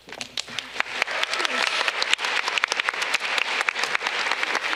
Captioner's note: audience clapping